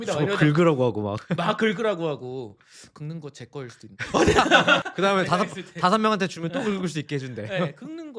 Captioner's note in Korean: 웃음